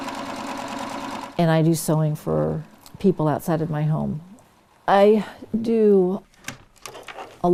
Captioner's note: sewing machine noise